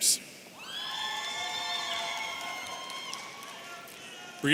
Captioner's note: audience cheering